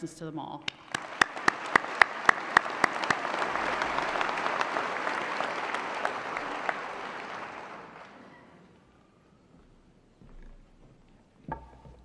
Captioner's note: applause